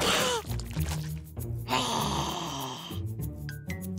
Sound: growling

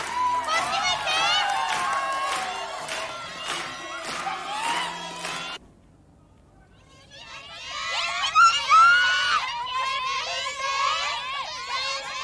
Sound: applause

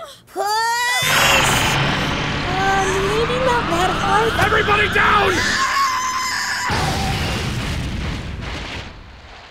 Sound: sounds of charing; explosion

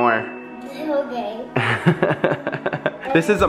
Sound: chuckles

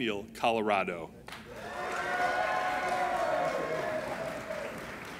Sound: applauding and cheering

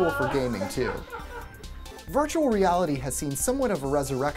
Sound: laugh

